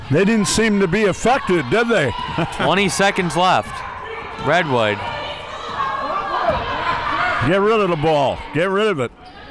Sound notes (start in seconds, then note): 2.2 laughs